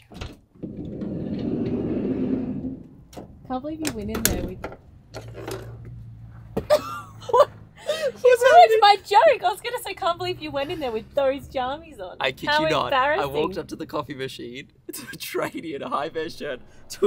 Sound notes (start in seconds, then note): 0.1 door slides open; 6.6 laughs